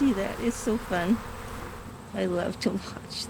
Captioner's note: buzzing